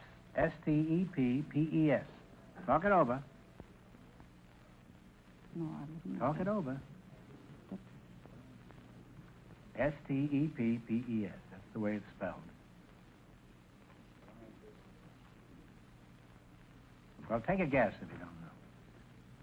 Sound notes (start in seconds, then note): 5.5 whispering